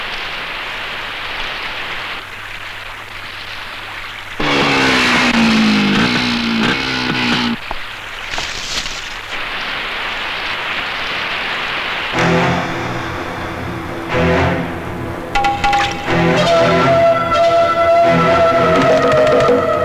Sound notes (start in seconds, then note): 4.4 motorcycle engine revving